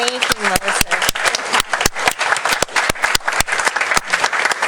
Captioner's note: applause